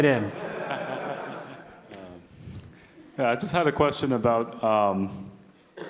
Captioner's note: laugh